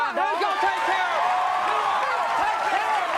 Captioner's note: audience cheering